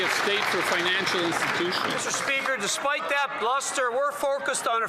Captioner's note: cheering and Applause